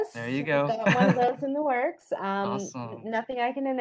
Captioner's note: murmurs